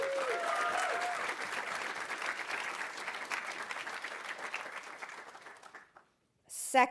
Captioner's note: audience cheering; audience applauding